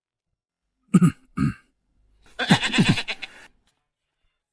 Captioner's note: cough cough